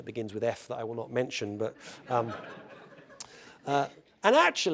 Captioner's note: laugh